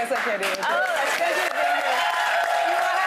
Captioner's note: audience applauding